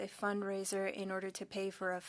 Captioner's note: speaking French